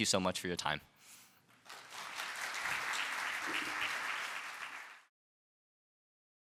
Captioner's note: applause